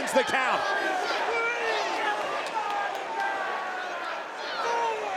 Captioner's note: crowd chants "Holy shit"